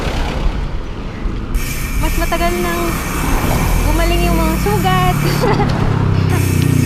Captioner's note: laughs